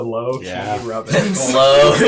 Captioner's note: all laugh